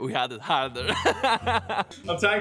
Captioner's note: laughing